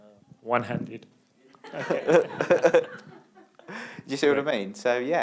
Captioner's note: laughter